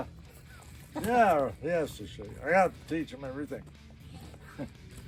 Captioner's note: laughs